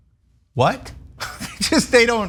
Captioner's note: laugh